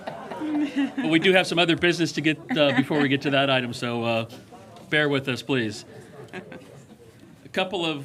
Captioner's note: laughter